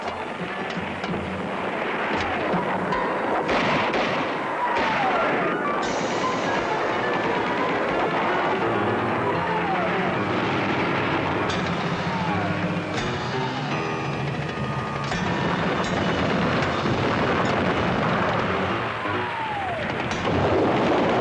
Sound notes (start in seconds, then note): 0.2 erratic dramatic music continues; 3.6 guns blasting; 10.1 tank engines rumbling; 14.4 explosions blasting